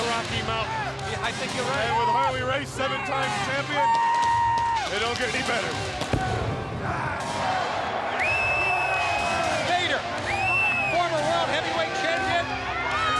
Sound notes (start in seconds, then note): 7.2 crowd cheering; 13.0 crowd chattering